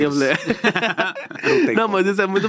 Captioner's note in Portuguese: risos